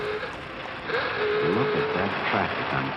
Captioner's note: horns ooga